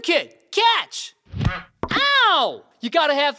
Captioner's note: bang